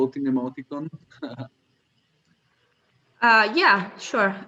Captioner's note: laughs